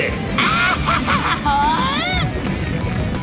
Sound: cackles

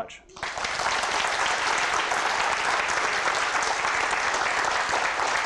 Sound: applause

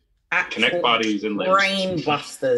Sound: laughs

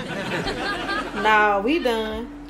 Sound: laughs

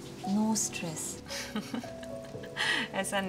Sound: giggling

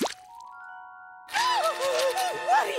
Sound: screaming

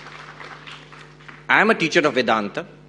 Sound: audience applauding

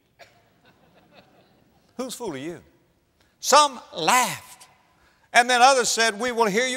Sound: audience laughter

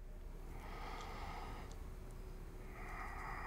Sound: inhales; exhales

